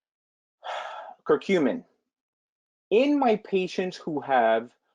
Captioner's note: sighs